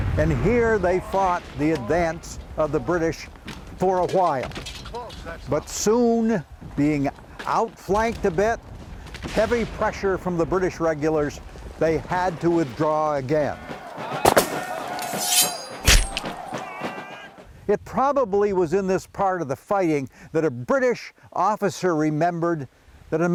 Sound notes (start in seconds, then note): 14.0 drums tapping; 14.0 men shouting